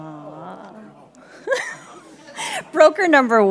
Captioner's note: laughing